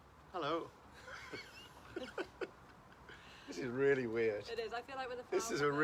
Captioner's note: laughing